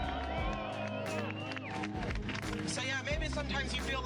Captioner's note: crowd cheers